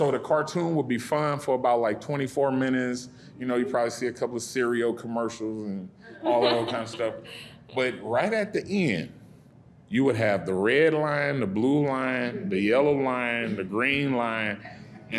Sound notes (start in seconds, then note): 6.1 audience laughing